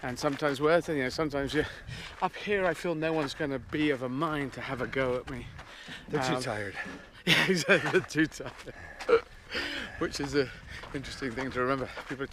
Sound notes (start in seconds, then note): 6.9 laughing